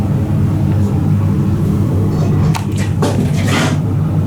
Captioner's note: scraping noise